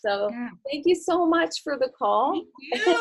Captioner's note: soft laughs